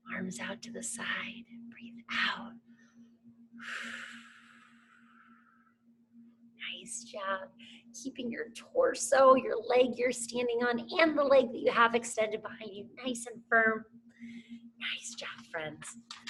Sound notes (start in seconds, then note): 3.7 exhales heavily